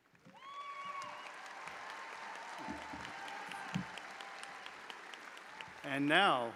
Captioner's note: audience applauding; audience cheering